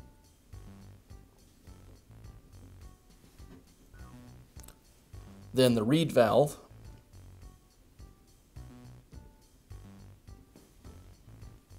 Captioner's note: pause 00:04:12